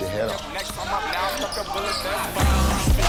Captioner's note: shoes screeching; upbeat hip hop music